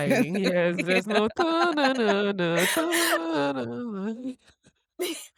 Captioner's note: humming soundtrack